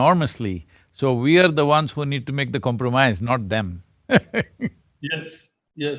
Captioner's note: laughs